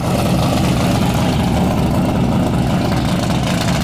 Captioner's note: engine revs